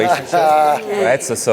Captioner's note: laughing